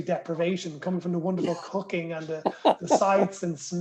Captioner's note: laughter